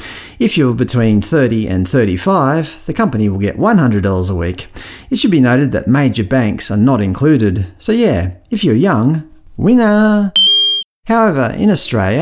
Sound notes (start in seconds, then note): 10.3 ding